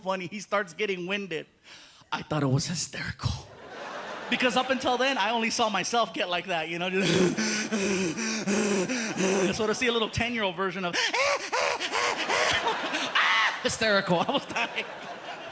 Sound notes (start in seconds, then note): 7.1 panting; 11.0 high-pitched panting; 11.1 shrieks; 13.8 laughing